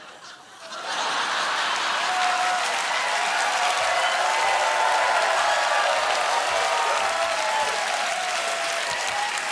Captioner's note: laughter; cheers and applause